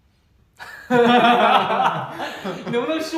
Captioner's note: hahaha